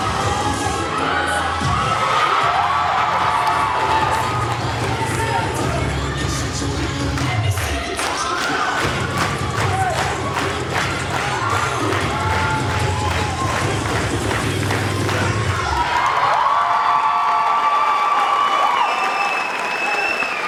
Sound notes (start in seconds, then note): 2.4 audience cheering; 2.4 cheer music continues; 12.5 cheer music continues; 16.2 audience clapping and cheering